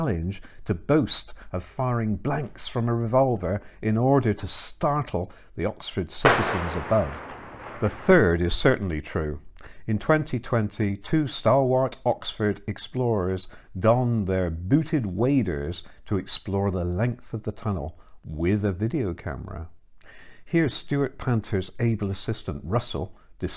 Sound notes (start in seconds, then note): 6.2 shot noises